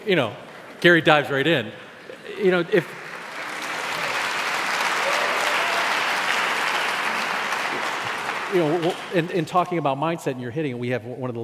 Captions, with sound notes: Gary dives right in. (audience cheers) In talking about mindset you're hitting, we have one